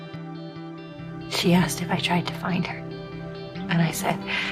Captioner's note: voiceover